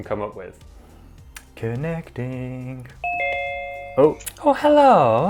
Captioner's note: ding noise